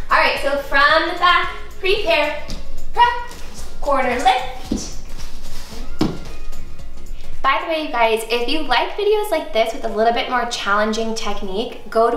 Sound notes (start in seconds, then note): 5.9 thuds